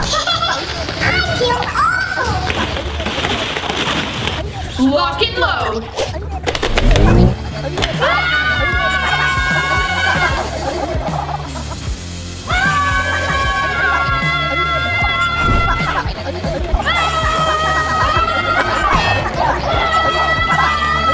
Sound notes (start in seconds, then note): 0.0 slipping fall; 0.0 laughing; 2.9 balls rattling; 6.5 blasters cocking; 8.0 sisters screaming; 9.5 liquid spraying; 9.5 sisters screaming; 16.0 germs gibbering; 16.0 sisters shouting